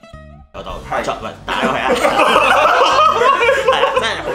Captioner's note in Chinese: 笑聲